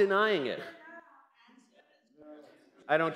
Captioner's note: comments from crowd